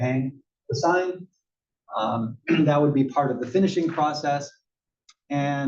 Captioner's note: cough